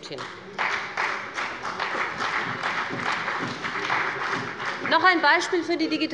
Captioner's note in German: Beifall bei BÜNDNIS 90/DIE GRÜNEN und der CDU